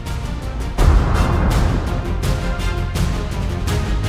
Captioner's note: explosion